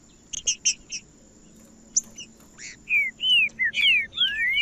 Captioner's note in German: trinca ferro cantando